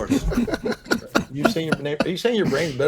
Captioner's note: laughs